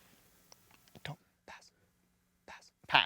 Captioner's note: whispering